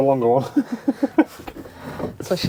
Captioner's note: laughing